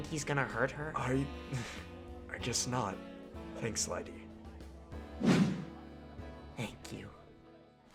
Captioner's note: snickers